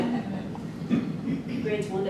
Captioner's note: group chuckles